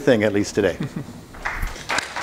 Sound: laughs; crowd applause

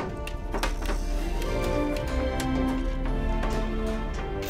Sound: gentle music; coins clattering; gentle music

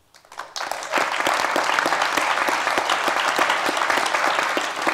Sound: applause

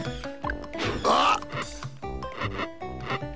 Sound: in Koopa's voice

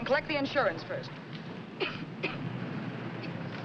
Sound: coughs

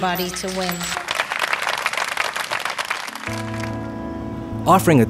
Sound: applause

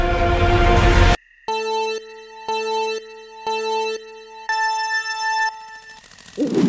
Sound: Mario Kart countdown ready sound

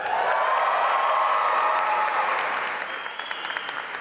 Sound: audience cheering

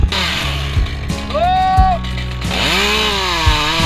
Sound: shouting

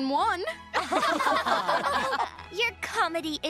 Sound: laughing

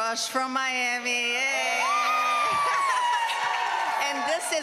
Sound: cheering

